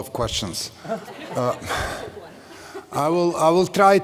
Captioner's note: laughter